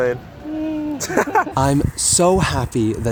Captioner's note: laughter